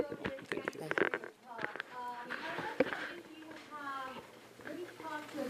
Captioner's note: talking distantly